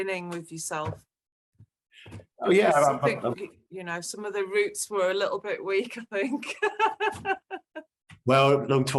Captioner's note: laughing